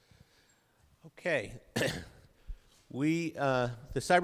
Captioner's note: coughs